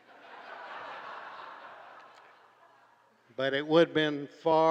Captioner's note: crowd laughs